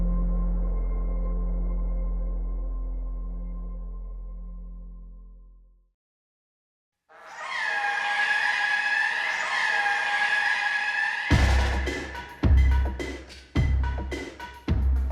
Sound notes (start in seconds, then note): 7.1 siren blaring; 11.3 upbeat music